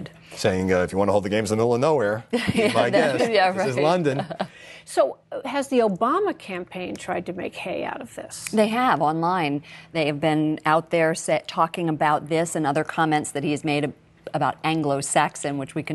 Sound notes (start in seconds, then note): 4.0 laughter